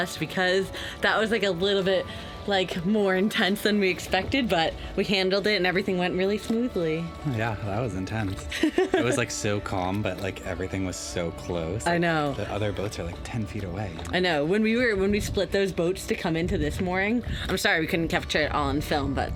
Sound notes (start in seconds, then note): 8.4 laughs